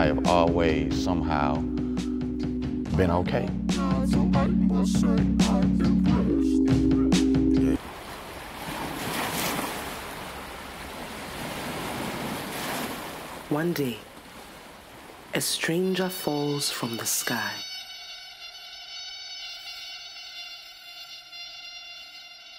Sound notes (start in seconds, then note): 3.9 warped singing; 8.1 waves crashing